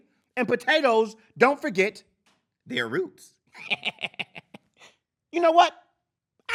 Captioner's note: laughs